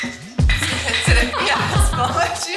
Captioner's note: laughing